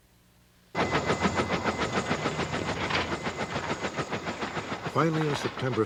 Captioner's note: sound of helicopter propellers